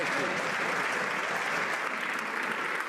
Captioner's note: some Applause